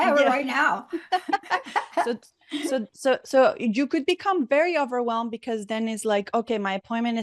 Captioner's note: laughing